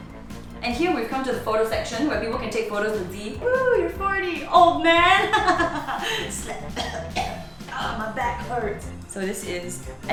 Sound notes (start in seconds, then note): 5.2 laughs; 5.8 coughs